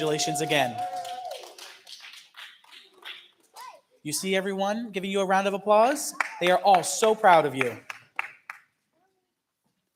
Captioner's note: applause